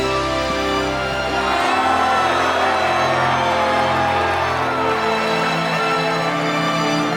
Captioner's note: cheering